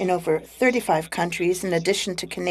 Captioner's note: speaking in French